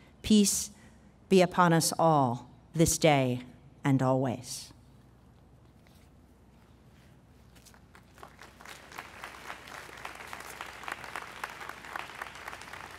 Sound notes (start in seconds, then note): 4.3 pause